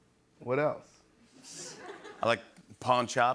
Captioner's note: laughter